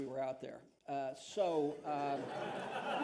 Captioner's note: laughter